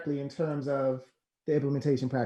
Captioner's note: laughs